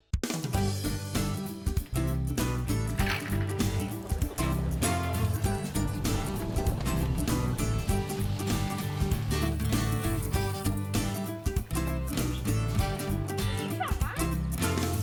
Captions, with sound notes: (upbeat country music plays) (Go Kart sputters) (upbeat country music plays) - Is that mine?